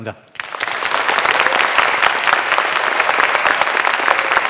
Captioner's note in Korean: 박수